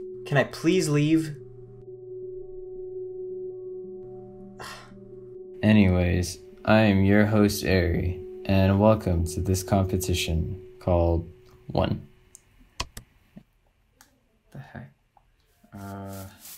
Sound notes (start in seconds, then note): 4.6 sigh; 12.6 faint Click